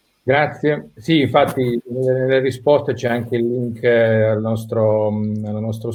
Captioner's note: speaking in foreign language